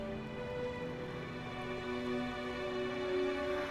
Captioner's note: none